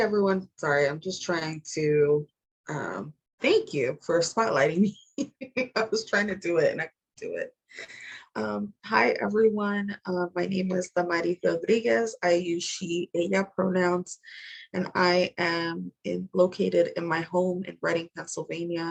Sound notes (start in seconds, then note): 5.2 laughter